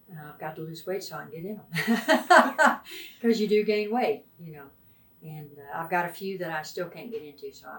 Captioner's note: laughs